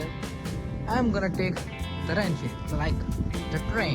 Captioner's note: spanish